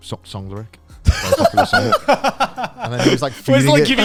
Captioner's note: laugh